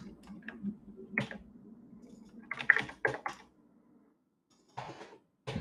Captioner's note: keyboard clacking